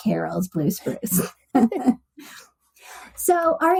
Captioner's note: laughs